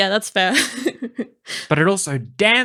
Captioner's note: laughs